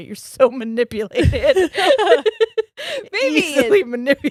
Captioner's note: both laughs